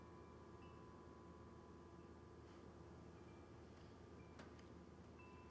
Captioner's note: chimes softly clanging